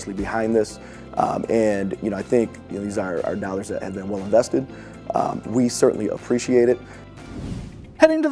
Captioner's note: swoosh SFX